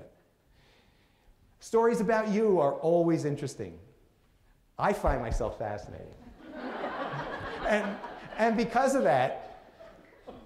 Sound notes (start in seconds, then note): 6.2 laughter